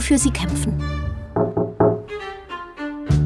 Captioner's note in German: Klopfgeräusch